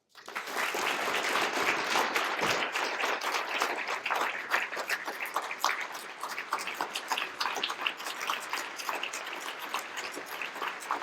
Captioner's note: applause